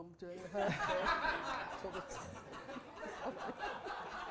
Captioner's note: laughter